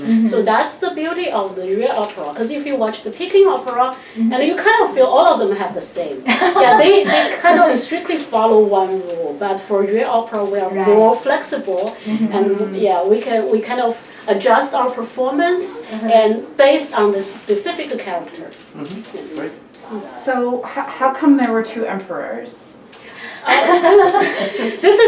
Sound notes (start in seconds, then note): 6.3 laughs; 23.4 group laughs